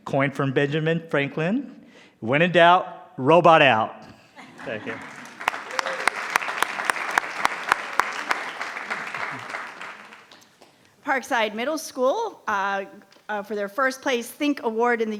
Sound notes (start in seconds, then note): 4.5 attendees applauding